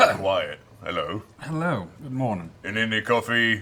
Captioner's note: coughs